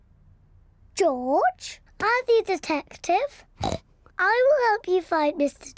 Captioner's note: snorts